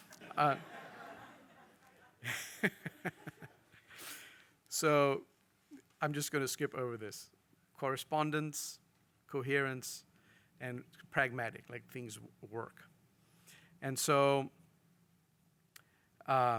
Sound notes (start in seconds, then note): 0.0 audience laughing; 2.2 laughs